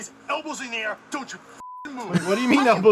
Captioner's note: beep